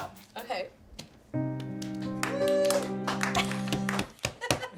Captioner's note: a few claps; sad cello and piano music